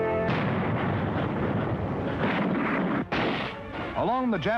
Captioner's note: gentle instrumental music; explosion rumbles